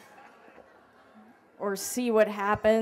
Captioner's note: laughter